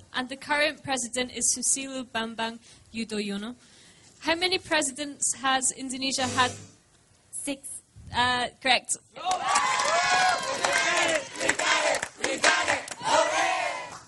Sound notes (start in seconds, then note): 6.4 buzzer; 9.2 applause